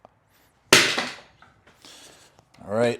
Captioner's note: dumbbell crashes